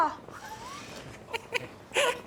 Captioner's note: laughing